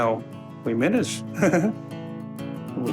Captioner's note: chuckles